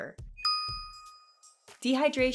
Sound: pause

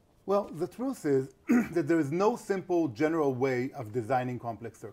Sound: cough

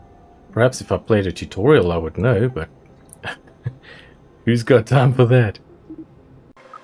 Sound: laughing

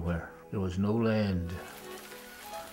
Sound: rain falling

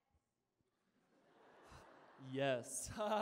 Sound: laughter

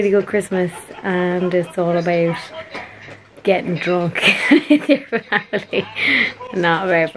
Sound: laughs

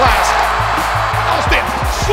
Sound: cheering

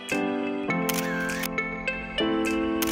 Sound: camera Shutter

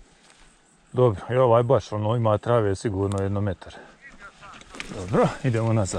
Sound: on the phone

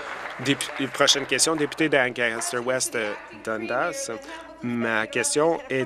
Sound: applause

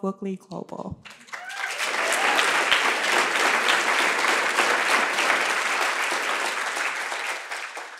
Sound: cheers and applause

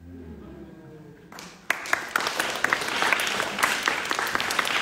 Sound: audience clapping

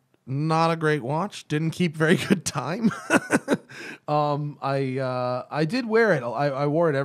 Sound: laughter

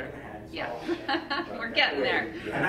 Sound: speaks quietly

